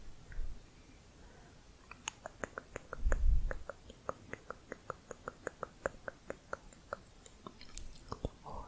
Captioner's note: tongue clicking